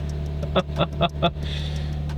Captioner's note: laughing